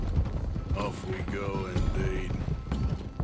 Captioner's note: grimly